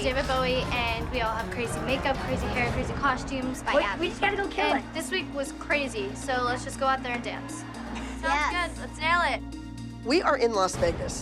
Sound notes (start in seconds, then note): 7.6 laughs